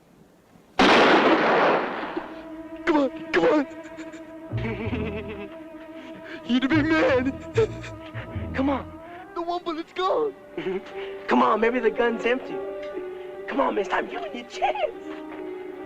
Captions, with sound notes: [ GUNSHOT - TENSE MUSIC ] [ LAUGH ] You do be murdered. [ LAUGH ] Come on, come on let's go! Come on, maybe the gun is empty. Come on, mister, I'm giving you a chance.